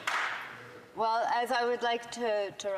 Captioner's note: some Applause